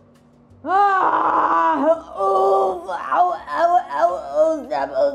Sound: woman groans deeply; woman groaning

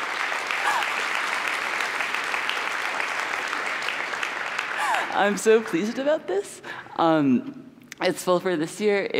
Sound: applause

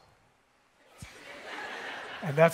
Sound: attendees laughing

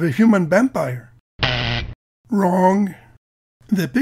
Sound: buzzer

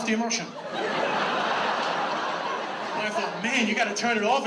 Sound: audience laughs

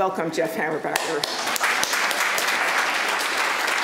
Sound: applause

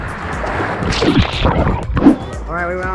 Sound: splashes

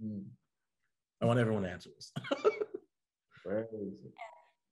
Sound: laughs

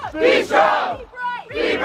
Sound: crowd

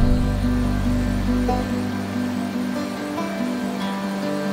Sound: water sloshing

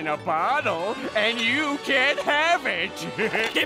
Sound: laughing

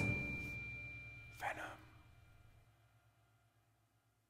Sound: whispered

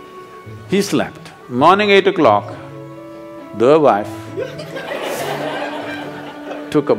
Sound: laughter

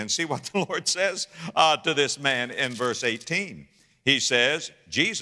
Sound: pages rustling

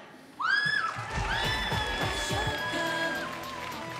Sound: audience cheering

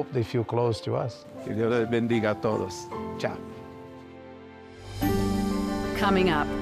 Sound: speaks foreign language

